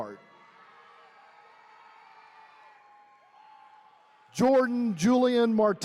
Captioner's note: attendees cheering